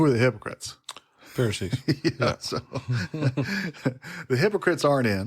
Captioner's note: laughs